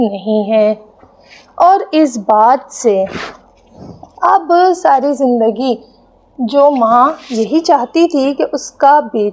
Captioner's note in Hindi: नाक से की जाने वाली आवाज़